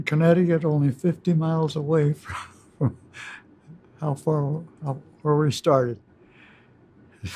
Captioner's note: chuckles